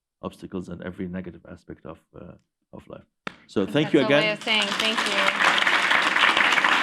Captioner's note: applause